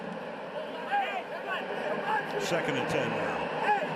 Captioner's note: onfield chatter